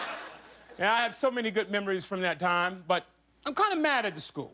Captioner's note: laughter